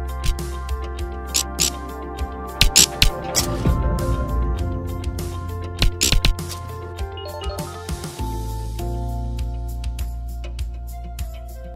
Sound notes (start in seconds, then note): 0.7 electricity buzzing; 7.1 electronic beeping; 8.8 light music